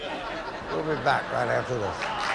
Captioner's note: audience laughing